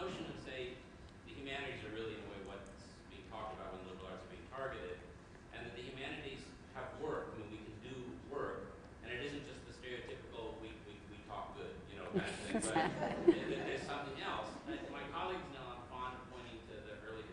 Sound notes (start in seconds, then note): 12.1 laughter